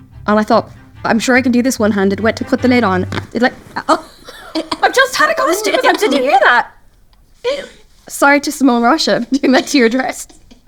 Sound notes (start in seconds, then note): 3.0 fabric tears; 3.7 laughs